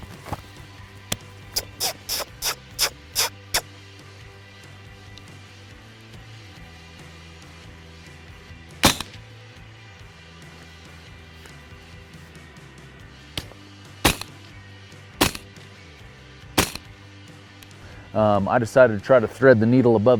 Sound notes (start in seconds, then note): 1.5 coyote calls; 8.8 gun shot; 13.5 gun shots